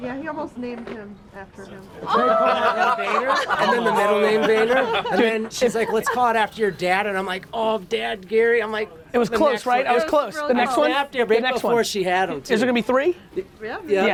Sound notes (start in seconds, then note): 2.0 crowd exclaims, laughs